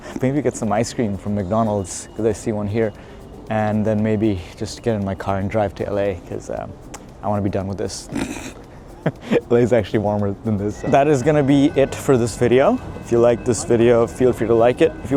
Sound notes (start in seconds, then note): 8.1 laughs